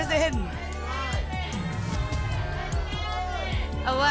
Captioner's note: audience shouting numbers